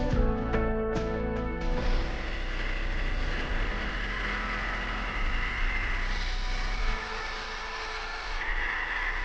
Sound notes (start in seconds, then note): 0.0 upbeat music; 1.6 grinder buzzing